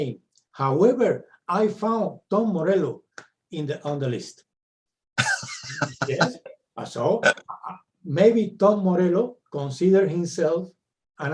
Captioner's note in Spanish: se ríe